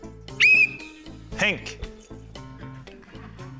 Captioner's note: blows whistle